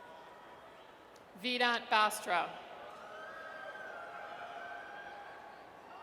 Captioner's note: audience cheers